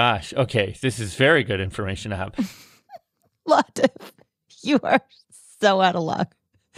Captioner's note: laughs